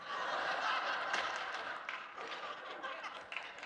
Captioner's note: audience laughing